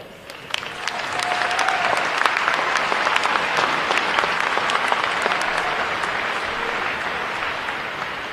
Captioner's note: applause